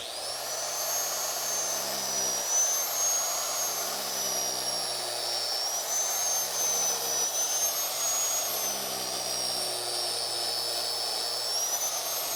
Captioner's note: grinder running